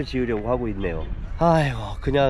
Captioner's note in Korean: 한숨